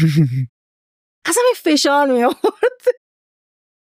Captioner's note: laughs